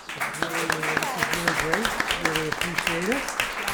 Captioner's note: audience applaud